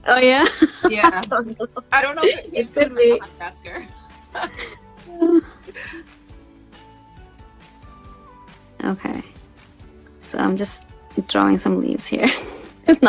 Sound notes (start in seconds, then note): 4.3 laughs